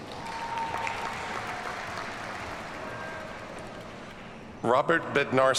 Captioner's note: audience cheers and applauds